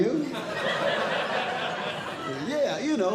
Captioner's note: audience Laughing